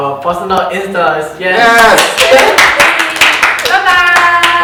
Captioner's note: cheering because we had to do 17,324 takes